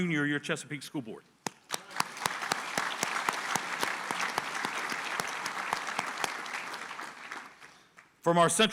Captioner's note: applause